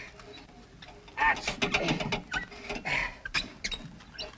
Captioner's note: gasping